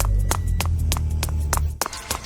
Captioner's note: shoes clacking; pensive music; shoes continue clacking